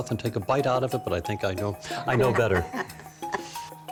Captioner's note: laughs